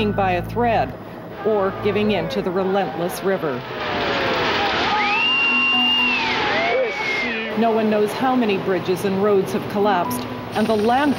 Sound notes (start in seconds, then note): 4.7 screaming